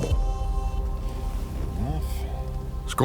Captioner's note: murmurs